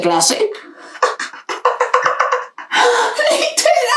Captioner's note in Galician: risas